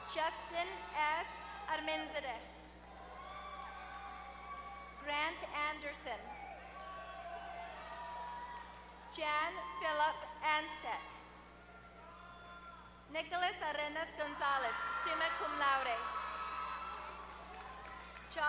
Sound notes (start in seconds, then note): 4.4 applause; 8.1 applause; 11.6 applause; 15.8 applause